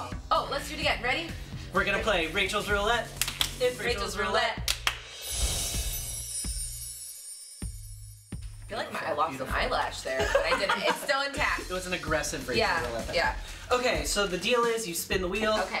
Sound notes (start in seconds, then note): 3.2 clapping; 4.6 clapping; 6.0 chimes